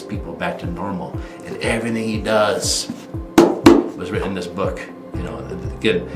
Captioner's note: taps book